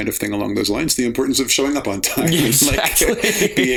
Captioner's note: laughter